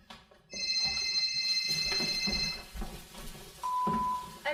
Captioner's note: phone rings